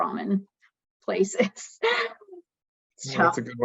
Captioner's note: laughs